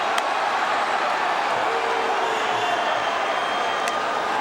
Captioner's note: audience cheering